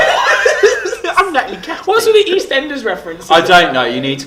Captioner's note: laugh; doing an imitation